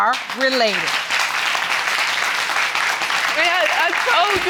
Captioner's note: applauding